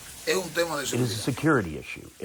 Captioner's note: through translator